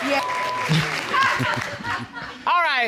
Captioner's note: woman laughing